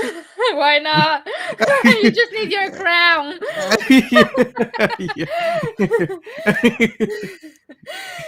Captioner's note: both laughing heartily